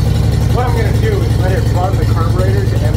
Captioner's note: engine running